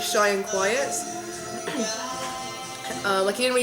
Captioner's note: clears throat